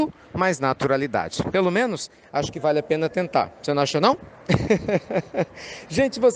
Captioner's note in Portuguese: Risos